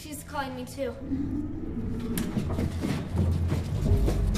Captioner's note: growling noise